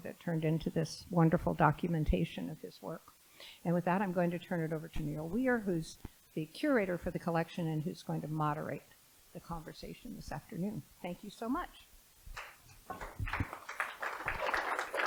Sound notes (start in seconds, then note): 12.9 applause